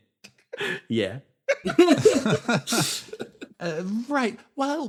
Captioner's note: laughs